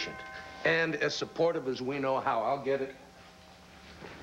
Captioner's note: dooell rings